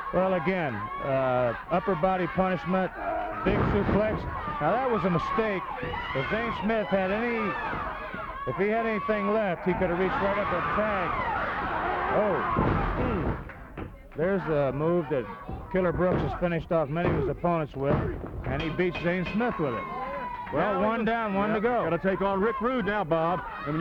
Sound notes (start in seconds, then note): 10.7 body thudding; 12.3 wrestlers grunting; 19.5 bell ringing